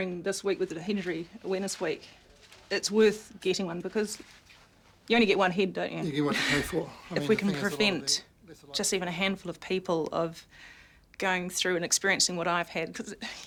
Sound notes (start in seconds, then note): 6.0 laughs